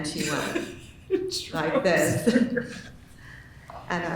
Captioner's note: laughing